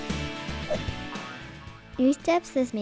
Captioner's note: air whooshes; globe boinging